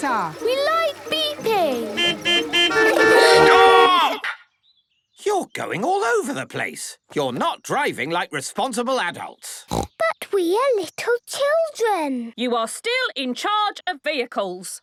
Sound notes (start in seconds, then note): 0.0 horns beeping; 9.6 snorting